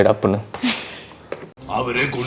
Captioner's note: chuckles